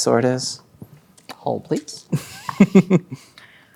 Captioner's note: chuckling